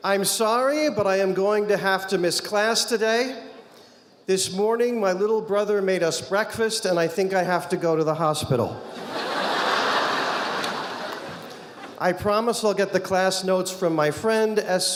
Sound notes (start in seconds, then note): 8.8 audience laughing